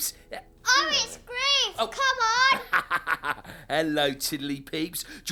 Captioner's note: laughing